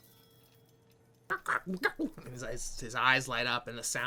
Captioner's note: squawking